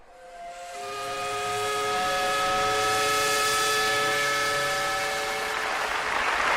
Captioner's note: steam whistle